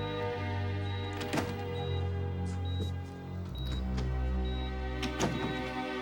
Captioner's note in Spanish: Sonido al abrir la puerta